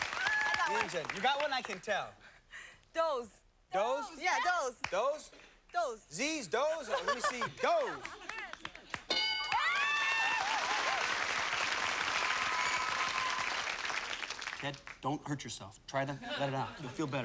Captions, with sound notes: I got one. You got one? I can tell. Doze. Doze? Yeah, doze. Doze? Zs, doze. Let me see doze. [applause] Ted, don't hurt yourself. Try to let it out. You'll feel better.